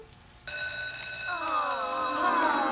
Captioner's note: school bell ringing